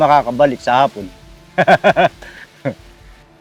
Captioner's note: laughs